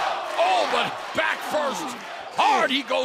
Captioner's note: crowd cheering